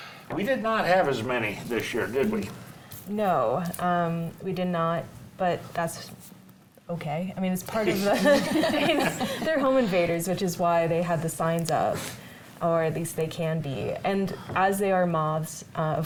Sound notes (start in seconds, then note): 8.1 panel laughs